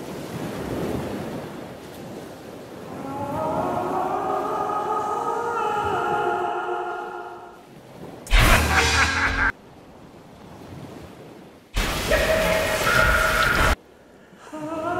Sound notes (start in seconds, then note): 8.3 laughs; 12.0 laughs